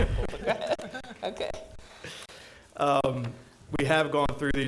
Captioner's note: chuckling